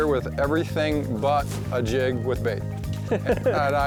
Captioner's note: laughs